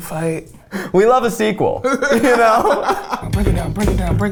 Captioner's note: laughs